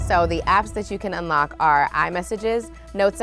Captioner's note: none